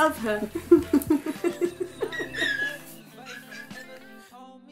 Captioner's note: both laughing